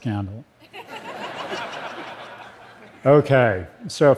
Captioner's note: laughter